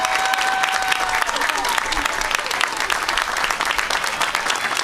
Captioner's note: applause